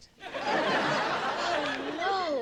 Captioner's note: audience laughing